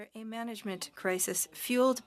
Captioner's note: speaking French